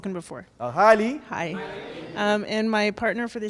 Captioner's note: audience murmurs in agreement